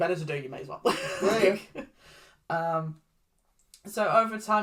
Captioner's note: laughs